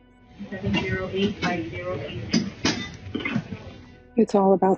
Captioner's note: sound from hospital equipment